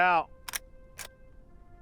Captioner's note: gun cocking